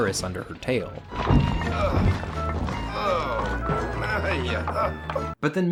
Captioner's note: whimsical music; Harry groaning